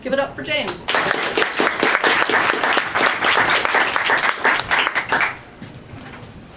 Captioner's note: applause